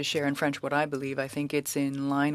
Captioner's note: speaking French